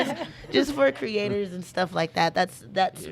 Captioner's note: laughing in unison